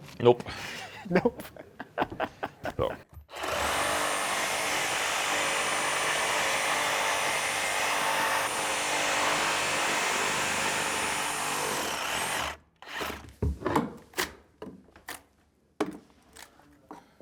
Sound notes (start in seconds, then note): 0.8 laughing; 4.3 saw grinding